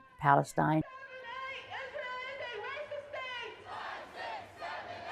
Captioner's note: crowd chanting